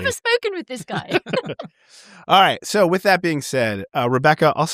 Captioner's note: laughter